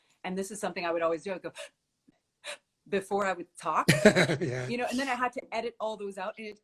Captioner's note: inhales